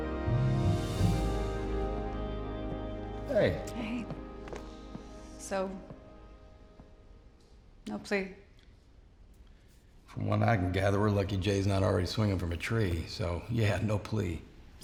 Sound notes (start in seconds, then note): 0.8 footsteps